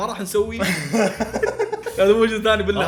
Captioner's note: laughing